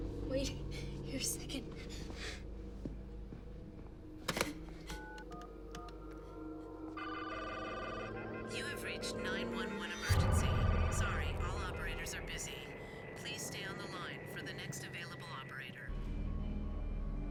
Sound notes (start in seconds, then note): 4.9 keypad beeps; 7.0 beeping; 7.0 lines ringing